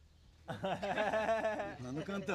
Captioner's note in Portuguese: todos rindo